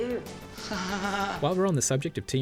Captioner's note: sarcastic